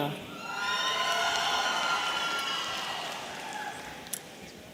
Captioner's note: audience cheering